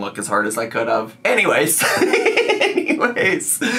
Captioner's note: laughs